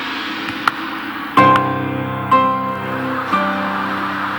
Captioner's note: gong clanking; audience laughing; tense dramatic music